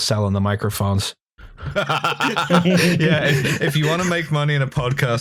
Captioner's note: laughter